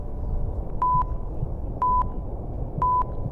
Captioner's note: beeps